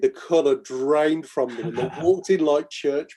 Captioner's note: laughing